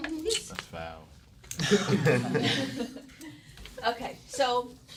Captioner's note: laughter